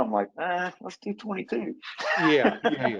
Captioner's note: laughs